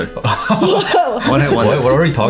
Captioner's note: laughing